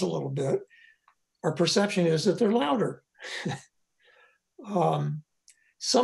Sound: laughs

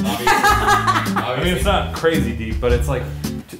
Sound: laughing

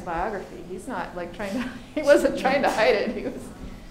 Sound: laughing

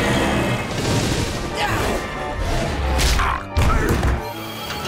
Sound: grunting

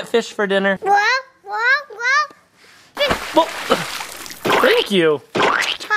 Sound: cartoon splash

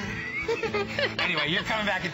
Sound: laughter

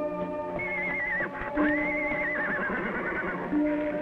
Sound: Champ neighing

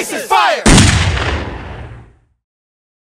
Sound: gunshot sound .mp3

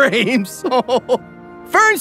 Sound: Grimmjack chuckles

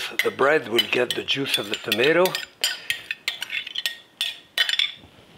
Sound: spoon clinking

